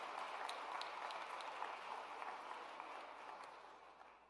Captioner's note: cheers and applause